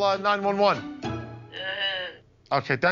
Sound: distressing grunt

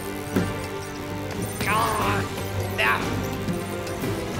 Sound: groaning

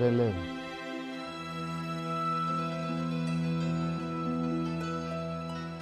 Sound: speaking foreign language

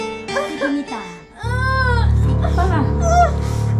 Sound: Mita groans

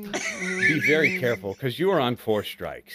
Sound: grumbling

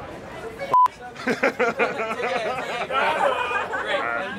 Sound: laughter

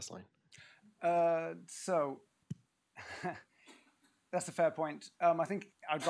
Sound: laughs

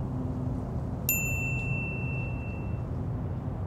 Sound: ping

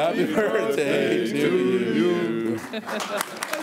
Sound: applause

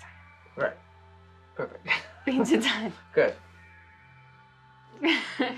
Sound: they laugh; she laughs

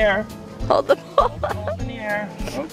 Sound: laughing

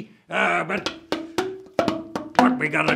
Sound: bamboo bonks

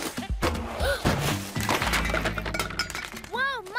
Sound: gasps

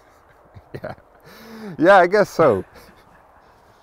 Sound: chuckles

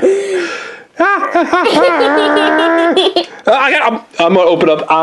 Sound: assistant laughs

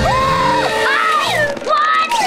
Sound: screaming

